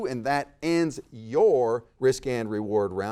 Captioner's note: none